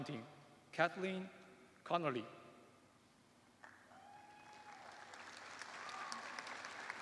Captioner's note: applause